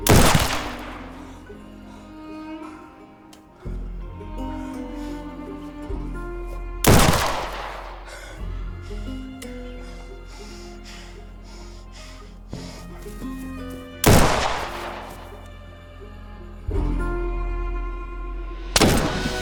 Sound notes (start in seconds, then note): 0.0 gunshots banging; 0.2 light dramatic music; 11.8 George panting; 14.0 gunshots banging; 14.3 light music